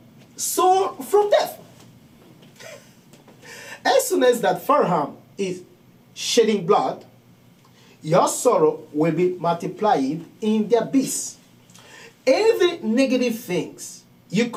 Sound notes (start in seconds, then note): 2.5 laughing